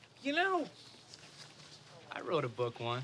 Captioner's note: none